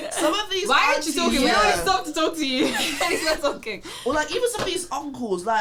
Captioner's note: laughing